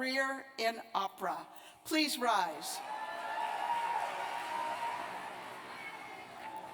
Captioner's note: cheers and applause